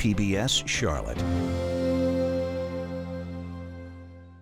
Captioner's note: voiceover